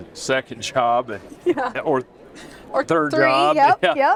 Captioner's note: chuckles